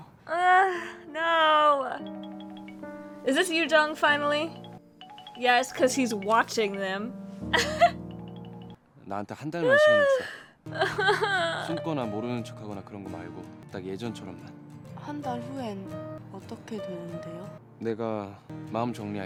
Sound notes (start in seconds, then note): 9.6 crying more